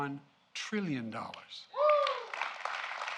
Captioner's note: applause